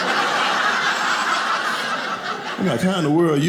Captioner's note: audience laughing